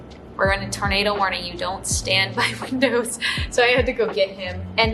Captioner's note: chuckles